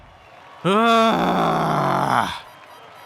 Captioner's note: frustrated noise that it did a lap and wasnt that bad driving